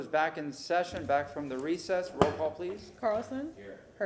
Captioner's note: sounding gavel